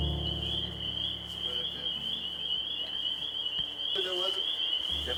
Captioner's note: cicadas continue buzzing